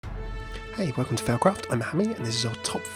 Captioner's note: voiceover